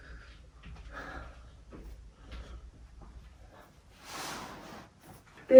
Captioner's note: woman breaths heavily